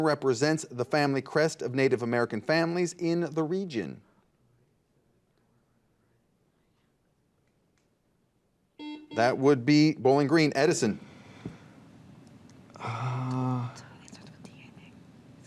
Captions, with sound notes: often represents the family crest of Native American families in the region? (buzzer beeps) That would be Bowling Green, Edison?